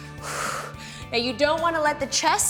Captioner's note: exhales